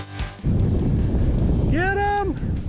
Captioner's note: air whooshing